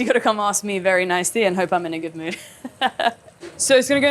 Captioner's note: laughs